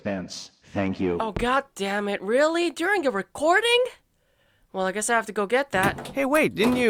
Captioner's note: door opens; door closes